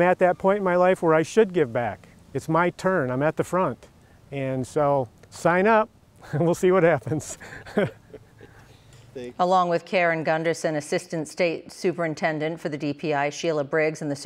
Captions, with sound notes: GIVE BACK. IT'S MY TURN, I'M AT THE FRONT. AND, SO, SIGN UP? WE'LL SEE WHAT HAPPENS (LAUGHTER)." ALONG WITH KERR AND GUNDERSON... ASSISTANT STATE SUPERINTENDENT FOR THE D-P-I SHEILA BRIGGS AND